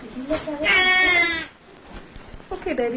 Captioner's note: baby cries